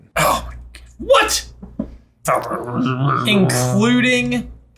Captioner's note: growling